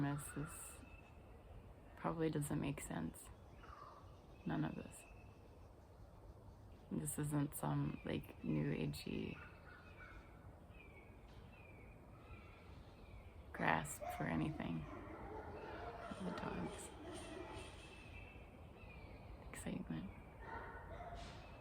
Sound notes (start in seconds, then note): 14.4 barking